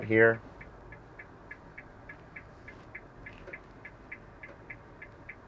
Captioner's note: hazard lights clicking